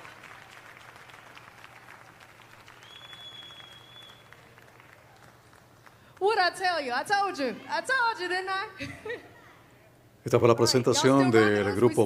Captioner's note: cheers and applause